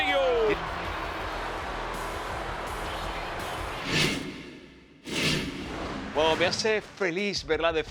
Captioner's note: applause